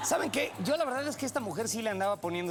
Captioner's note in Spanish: risas